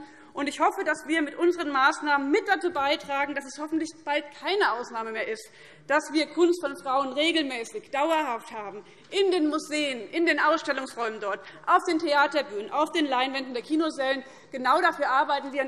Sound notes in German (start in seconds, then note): none